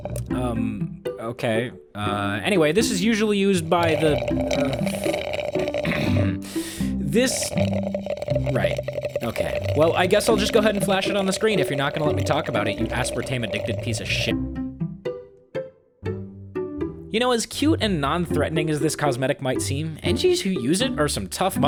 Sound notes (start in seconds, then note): 10.9 slurp slurp slurpity slurp slurp